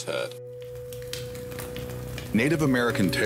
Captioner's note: fire crackling